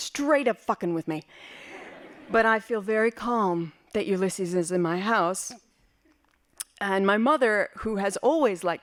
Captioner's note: laughing